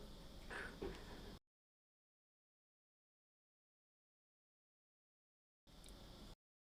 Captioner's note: silence